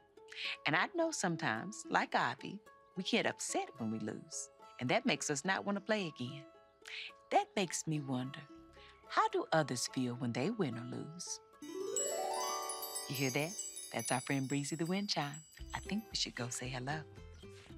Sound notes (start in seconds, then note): 11.6 chiming